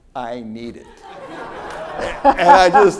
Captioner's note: audience laughs